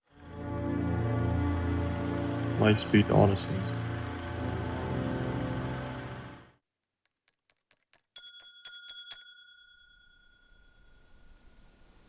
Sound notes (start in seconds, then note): 0.0 calm music; 8.1 bell ringing